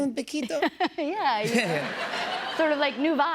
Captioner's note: laughs